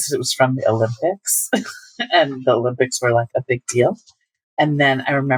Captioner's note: laughter